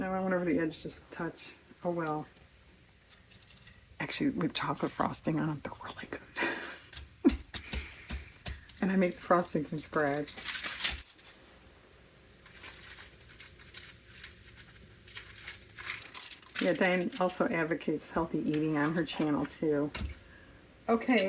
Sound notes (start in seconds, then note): 7.1 laughs